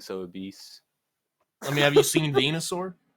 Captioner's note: laughs